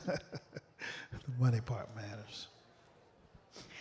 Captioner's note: laughter